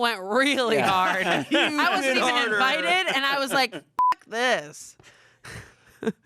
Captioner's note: beep